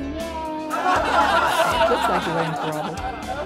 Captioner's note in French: rire